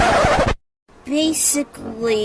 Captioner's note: record scratch